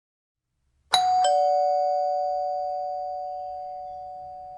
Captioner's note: doorbell